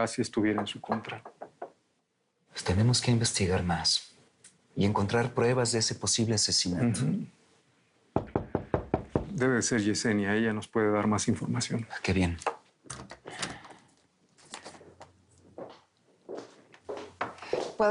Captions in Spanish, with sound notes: PARA QUE ALTAGRACIA ESTUVIERA EN SU CONTRA. - PUES, TENEMOS QUE INVESTIGAR MAS Y ENCONTRAR PRUEBAS DE ESE POSIBLE ASESINATO. - UJUM. [Toques en la puerta] - DEBE SER YESENIA. ELLA NOS PUEDE DAR MAS INFORMACION. - !AH, QUE BIEN!